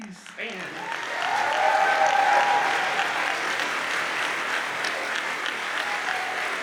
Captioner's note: audience cheers and applauds